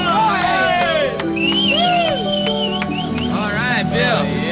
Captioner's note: cheers & whistles